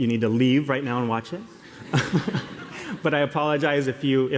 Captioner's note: laughter